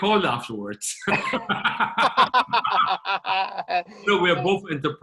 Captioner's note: both laughing